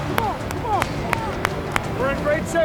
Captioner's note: clapping